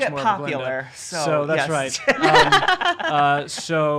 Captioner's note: laughing